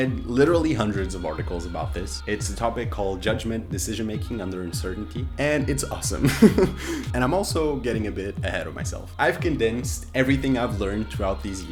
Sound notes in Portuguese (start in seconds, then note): 6.2 risos